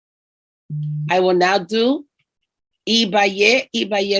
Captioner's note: speaking in foreign language